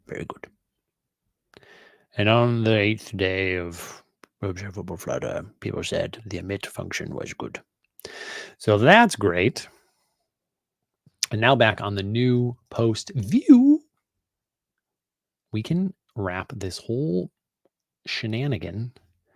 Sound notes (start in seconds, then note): none